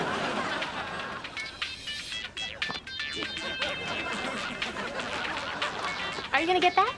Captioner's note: cell phone music ring